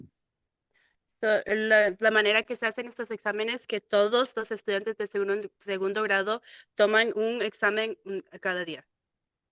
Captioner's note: speaking in Spanish